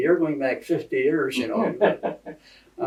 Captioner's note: laughter